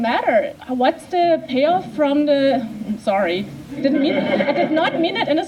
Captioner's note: laughter